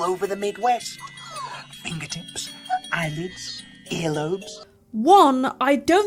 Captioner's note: girl whimpers in fear